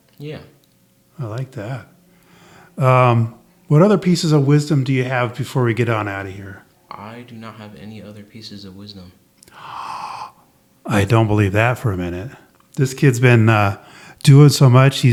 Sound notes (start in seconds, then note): 9.4 gasps